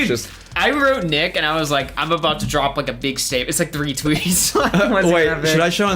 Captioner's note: laughs